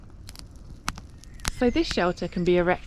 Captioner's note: fire crackling